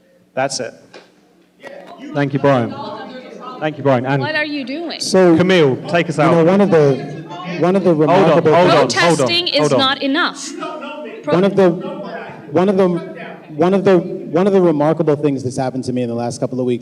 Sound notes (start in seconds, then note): 0.9 shouting; 8.0 shouting; 10.0 shouting